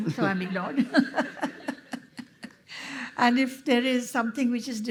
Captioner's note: laughter